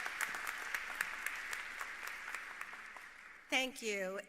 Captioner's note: applause